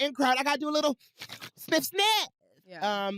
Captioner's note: sniffs, snorts